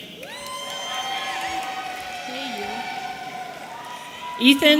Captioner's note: audience cheering